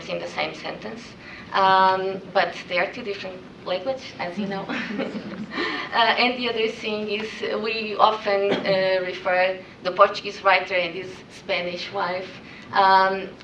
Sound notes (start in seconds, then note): 4.5 laughs